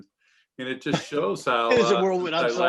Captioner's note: chuckling